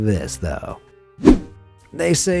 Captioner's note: air whooshing